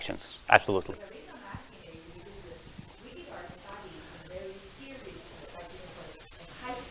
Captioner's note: murmurs